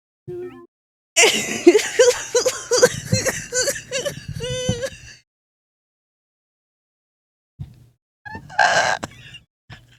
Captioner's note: sobbing; unholy screech